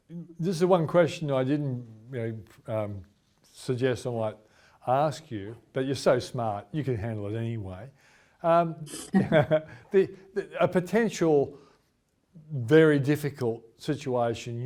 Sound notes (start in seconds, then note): 8.8 giggles; 8.9 chuckles